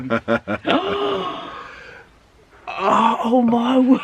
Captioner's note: laughing; gasping